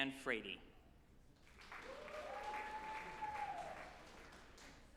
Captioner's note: group applauding